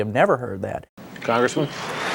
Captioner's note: applause, cheers